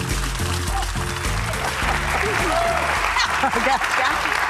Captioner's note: audience applauding; upbeat music